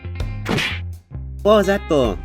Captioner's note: punch sound